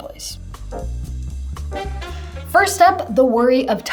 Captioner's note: air swooshing